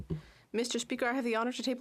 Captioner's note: speaking French